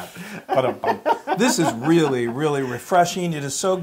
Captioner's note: laugh